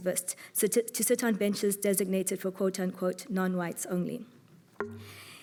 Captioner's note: none